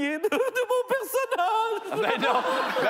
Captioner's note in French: rires